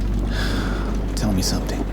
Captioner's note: Warrick sighing